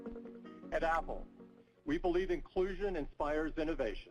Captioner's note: voiceover